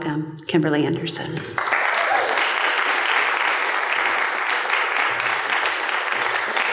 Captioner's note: applause